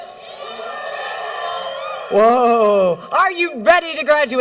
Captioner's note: cheering